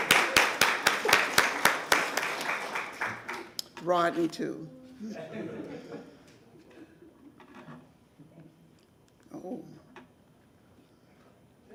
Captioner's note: applause